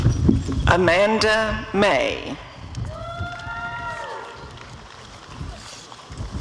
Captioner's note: applause and cheering